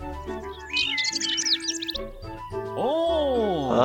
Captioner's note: birds chirping